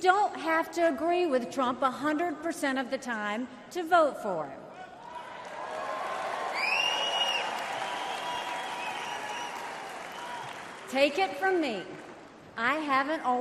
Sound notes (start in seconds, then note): 5.0 crowd cheers